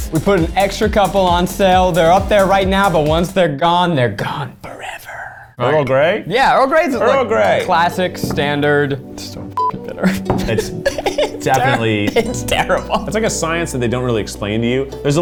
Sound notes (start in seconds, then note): 9.5 beep